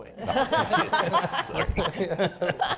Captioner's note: laughing